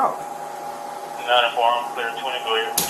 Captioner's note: radio chatter